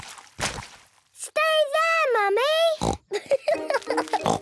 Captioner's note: laughing